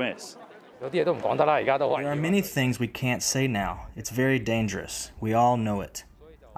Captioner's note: through translator